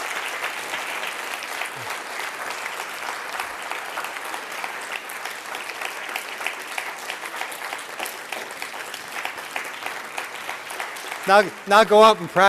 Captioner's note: applause